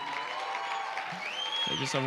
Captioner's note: cheering